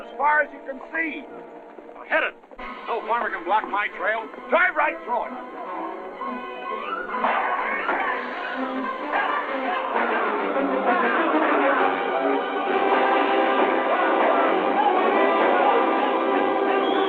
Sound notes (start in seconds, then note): 5.9 dramatic music; 7.8 yelling and whistling